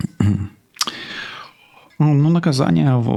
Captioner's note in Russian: откашливается